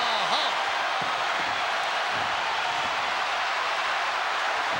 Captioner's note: crowd yelling